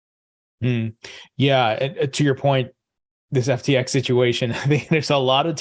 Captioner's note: laughing